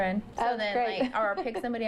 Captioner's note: laughter